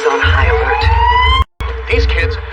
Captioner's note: sirens wailing